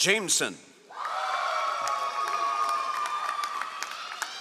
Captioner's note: all applauding